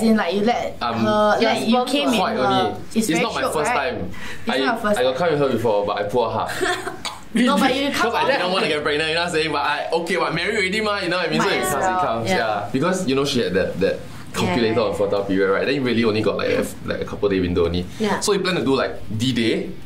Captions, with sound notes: - I'm... - As in you let her... - quite only - you came in her? - It's not my first time - Shiok right? - I got come in her before - It's not your first time? but I pull out half *cough* 'cause I didn't wanna get her pregnant you know what I'm sayin' but I okay because married already ma you know what I mean? - So if it comes, it comes ya - Might as well. Because you know she had that calculator of fertile period right then you only really got like a couple day window only. So we plan to do like d-day